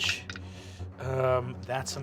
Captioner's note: rolls dice